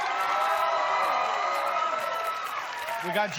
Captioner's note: cheers and applause